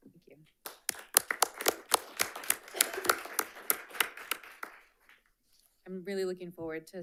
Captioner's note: attendees applauding